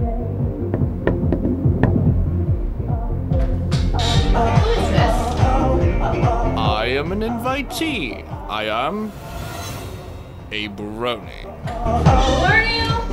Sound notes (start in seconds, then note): 0.7 kNOck knOCk knock-knock, KNOCK; 3.5 door creaks